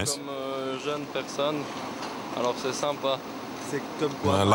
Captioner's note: French spoken audio